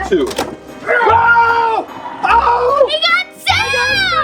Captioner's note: screams